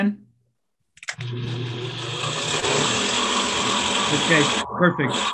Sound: fan whirs

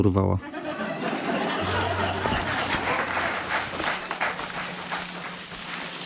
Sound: laughter and Applause

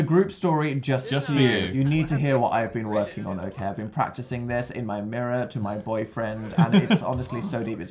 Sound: laughs

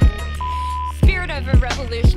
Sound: upbeat music; video beeps

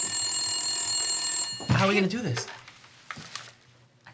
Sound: phone ringing

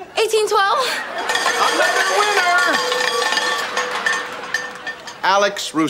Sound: ringing

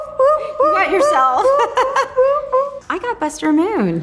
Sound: laughs

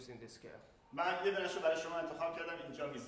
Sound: speaking in farsi

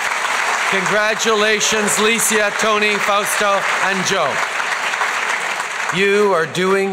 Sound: applause

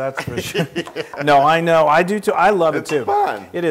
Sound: laugh

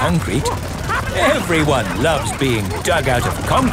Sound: all laughing

